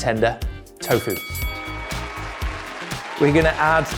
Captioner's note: crowd cheering